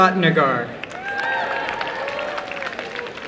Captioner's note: applause